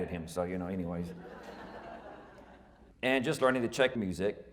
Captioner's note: audience laughing